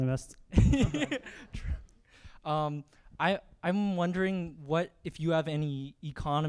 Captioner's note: laughs